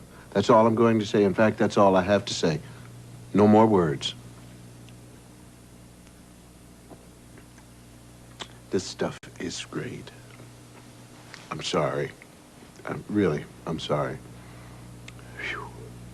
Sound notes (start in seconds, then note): none